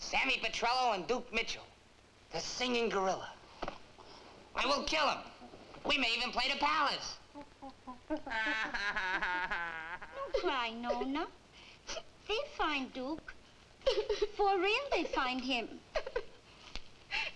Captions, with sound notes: Sammy Petrillo and Duke Mitchell, the singing gorilla. I mean, we'll kill them. We may even play The Palace! (Sammy sobbing) - No cry, Nona. (Nona crying) They'll find Duke. For real, they find him.